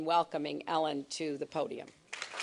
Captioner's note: applause